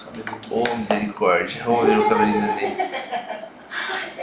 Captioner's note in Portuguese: risos